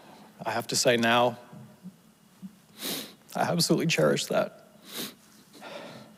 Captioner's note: sniffles